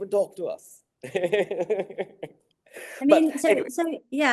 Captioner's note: laughing